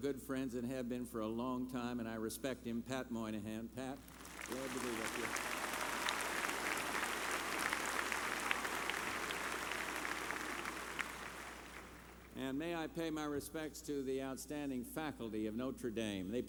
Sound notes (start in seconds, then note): 9.4 applause